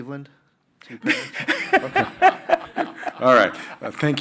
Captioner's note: panelists laughing